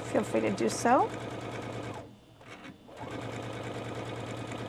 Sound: sewing machine whirring

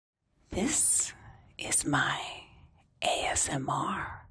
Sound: whispering

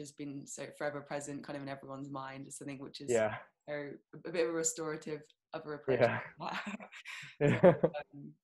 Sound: laughs

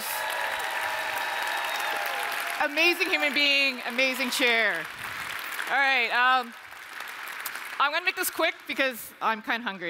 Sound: applause

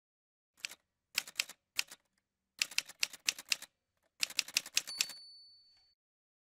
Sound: typewriter sounds

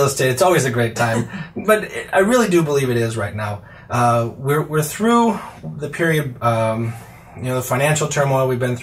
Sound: laughs

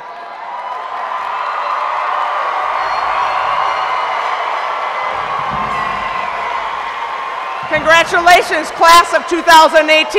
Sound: cheering

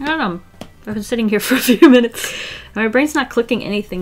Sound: laughs

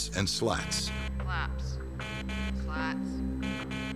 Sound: alarm buzzing

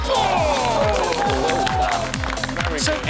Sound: gasps and applause

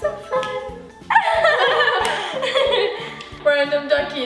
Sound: laughing

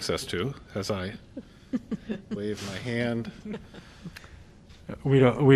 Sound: laughter

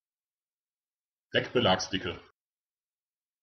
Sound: fast Pronunciation

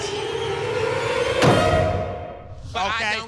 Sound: creepy music sting; door clunks

